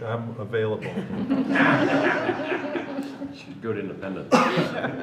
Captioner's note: laughter